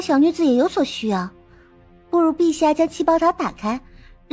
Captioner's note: breath